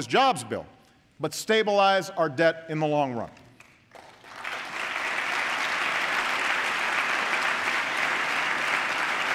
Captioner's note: applause